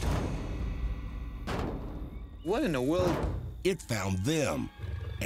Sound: banging

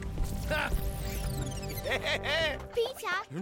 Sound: evil laugh; futuristic bleeping

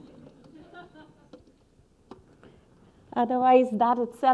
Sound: audience laughing

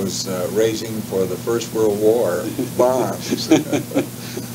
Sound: chuckles

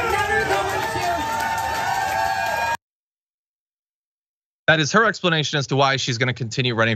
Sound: applause

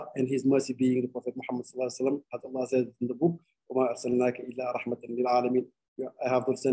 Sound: speaking arabic

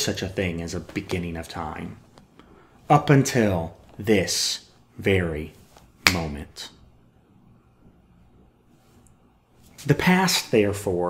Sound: finger snap

